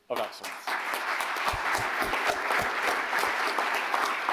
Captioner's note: audience applauding